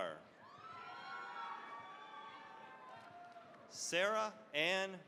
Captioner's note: cheering, applause